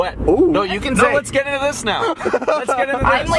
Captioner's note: laughs